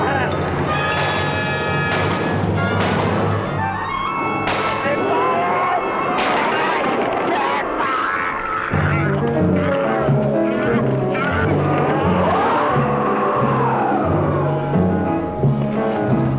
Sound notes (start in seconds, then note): 0.0 screaming; 0.0 gun shots; 6.3 screaming; 12.4 roaring